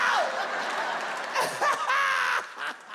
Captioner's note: laughs; audience laughs